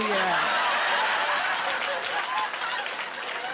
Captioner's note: laughter